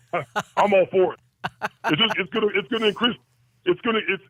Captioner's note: laughs